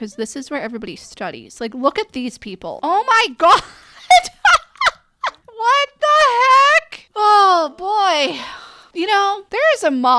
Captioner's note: laughing